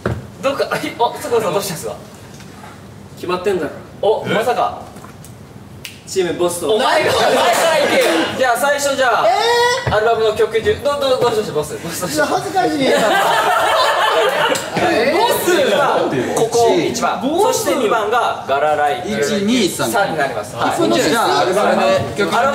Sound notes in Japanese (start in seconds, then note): 5.8 指を鳴らす; 12.8 笑い